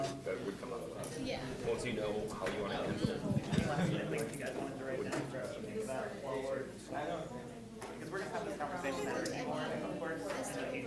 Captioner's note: students discussing